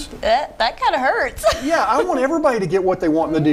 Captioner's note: laughing